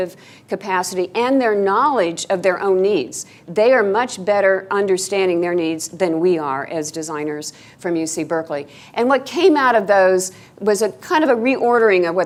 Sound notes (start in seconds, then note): none